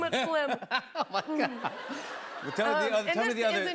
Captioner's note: laughter